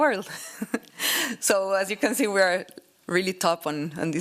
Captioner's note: laughs